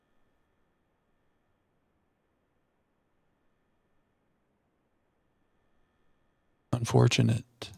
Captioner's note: silence